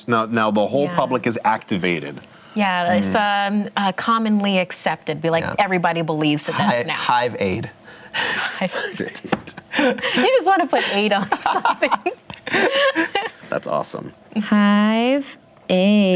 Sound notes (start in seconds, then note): 8.6 light laughter; 10.8 laughter